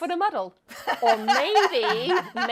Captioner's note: laughs